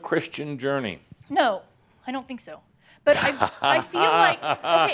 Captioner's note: Adamus chuckles